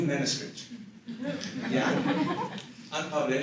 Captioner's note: laughter